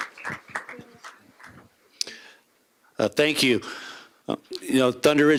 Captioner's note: applause